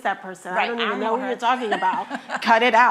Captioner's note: laughing